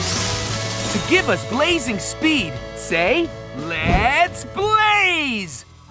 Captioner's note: none